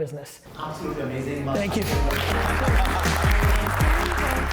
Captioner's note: audience applauding; mellow music